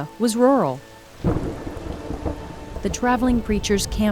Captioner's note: thunder